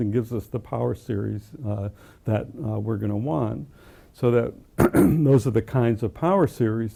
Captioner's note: cough